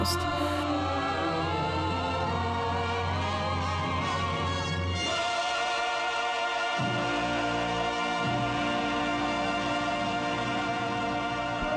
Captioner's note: applause